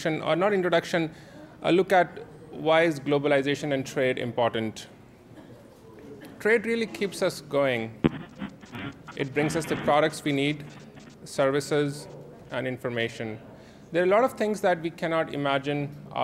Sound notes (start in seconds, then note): 8.0 microphone Static